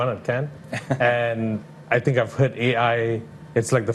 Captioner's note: laughs